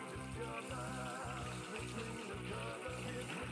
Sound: spray hisses

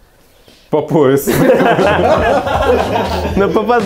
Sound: laughing

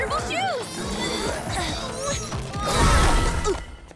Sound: all straining

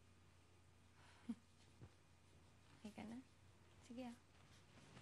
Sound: chuckles

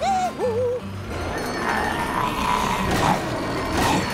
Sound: humming; growling

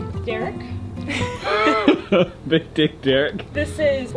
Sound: both laughing

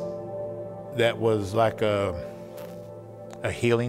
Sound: pat

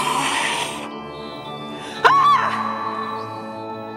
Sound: screaming

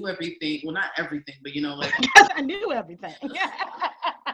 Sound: laughing

